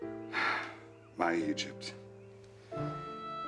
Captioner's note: sighing